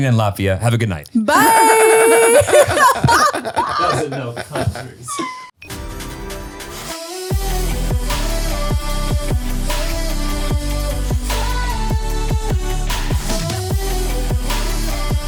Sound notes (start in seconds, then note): 1.3 all laughing; 5.8 upbeat music